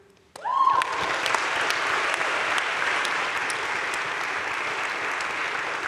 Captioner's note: audience cheering and applauding